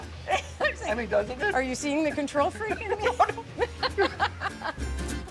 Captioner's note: laughs